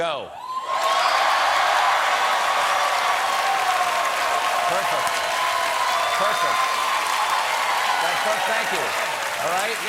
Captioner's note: audience reacts